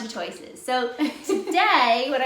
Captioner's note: laughing